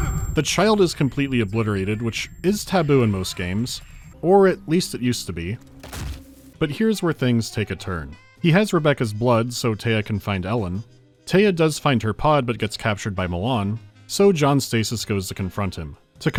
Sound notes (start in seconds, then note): 0.0 voice caving from powerless desperation; 5.7 dunk